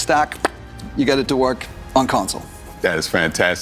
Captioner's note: jorg makes popping noise